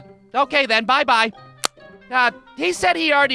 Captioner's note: click!